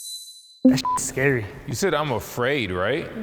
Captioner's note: beep